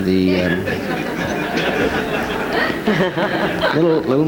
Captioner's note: audience laughs